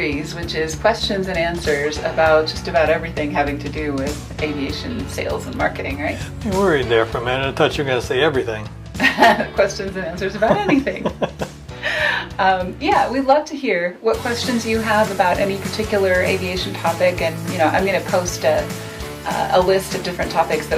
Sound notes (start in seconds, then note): 10.2 laughs; 10.2 chuckles